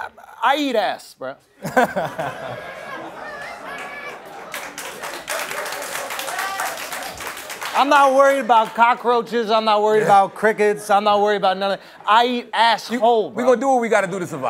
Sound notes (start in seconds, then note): 3.2 laughter; 6.2 applause